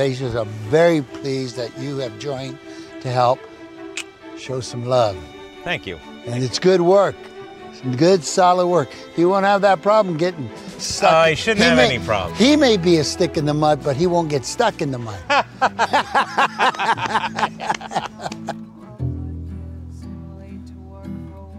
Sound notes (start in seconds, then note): 15.1 both laughing; 18.4 light music